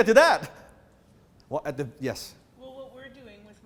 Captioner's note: chuckles